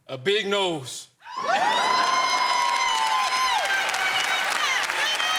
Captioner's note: cheers and applause